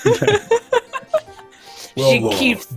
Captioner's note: laughing